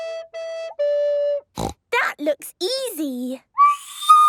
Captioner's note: snorting; off-key